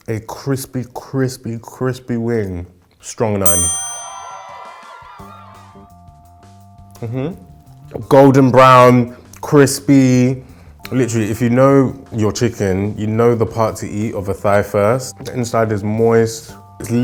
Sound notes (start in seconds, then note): 3.4 bell ringing; 4.4 cheering; 5.5 light music